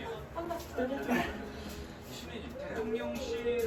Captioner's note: giggling